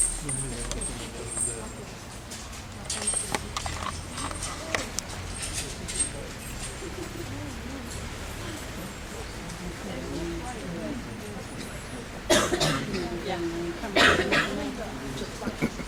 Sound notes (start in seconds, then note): 2.9 chains Rattling; 9.5 people Talking; 12.2 coughing